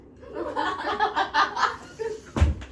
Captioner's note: all laughs